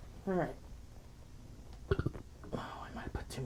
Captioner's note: belches